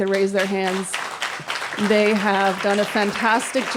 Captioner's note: applause